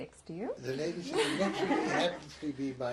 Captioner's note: laughter